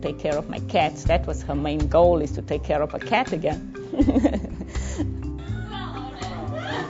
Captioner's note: chuckles; club chattering